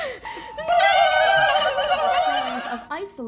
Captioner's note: panicked turkey noises